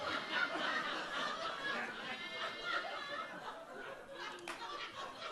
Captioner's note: audience laughs